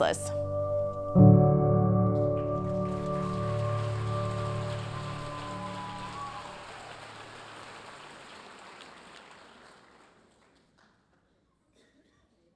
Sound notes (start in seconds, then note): 0.0 gentle poignant music; 2.2 audience cheering and applauding